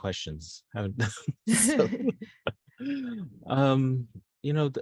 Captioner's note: all laughing